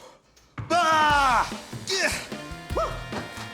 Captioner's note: yells, grunts